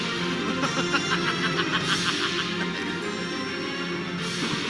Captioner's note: laughing; tense music